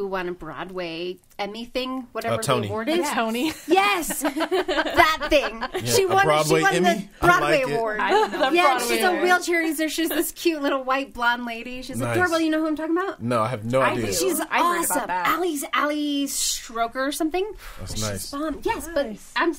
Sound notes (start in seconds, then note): 3.4 all laughing